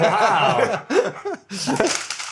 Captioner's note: laughter